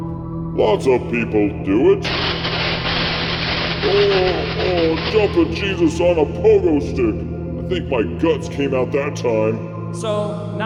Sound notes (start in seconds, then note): 2.0 electric zaps